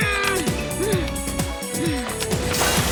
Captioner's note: Nicole grunting